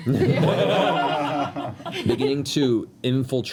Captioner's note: laughter